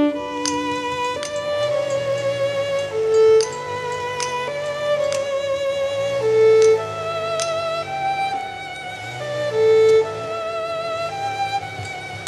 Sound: hammer tapping

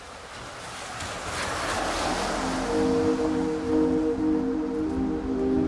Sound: water splashing

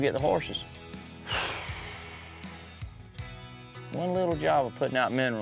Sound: exhales

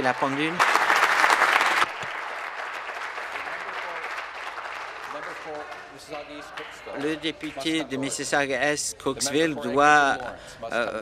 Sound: applause

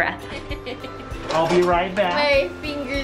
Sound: laughing

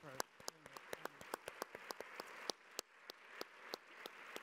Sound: audience applause

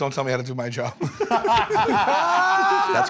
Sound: laughter

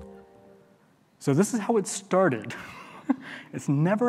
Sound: chuckles

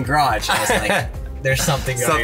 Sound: laughs

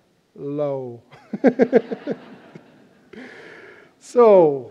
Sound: laughter

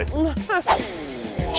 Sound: whoosh

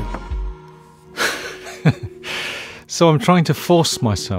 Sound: laughing

